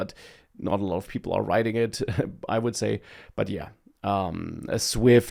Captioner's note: laughs